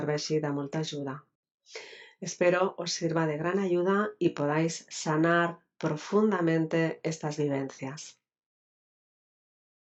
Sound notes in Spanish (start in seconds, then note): 2.3 español